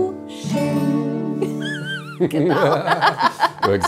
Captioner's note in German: lacht